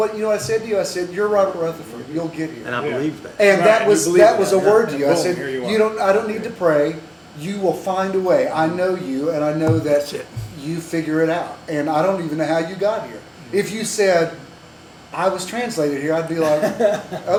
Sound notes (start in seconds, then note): 9.6 table bang